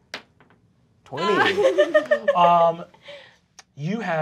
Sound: laughing

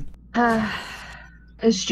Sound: she sighs

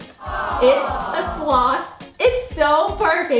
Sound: people aww-ing

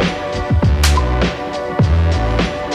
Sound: loud smack

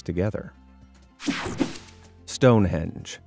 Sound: screen whooshing

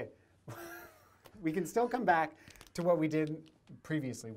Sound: laughter

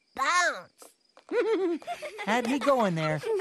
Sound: chuckles

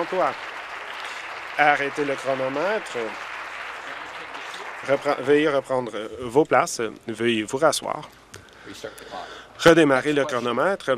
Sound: applause

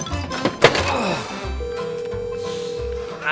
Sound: dial tone

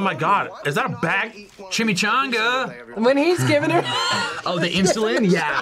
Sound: laughs

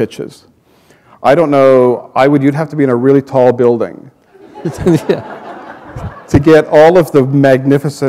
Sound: chuckle

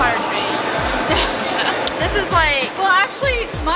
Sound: laughing

